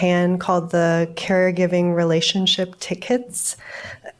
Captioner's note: coughs